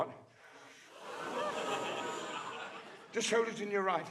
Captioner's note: audience gasping